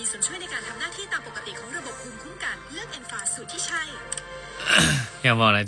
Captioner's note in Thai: เสียงหัวเราะ